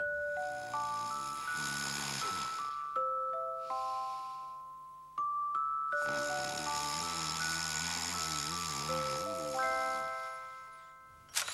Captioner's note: sring